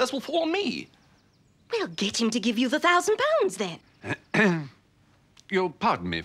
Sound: clears throat

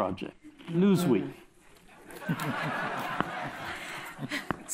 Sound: laughter

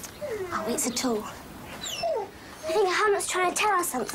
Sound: Humph whining

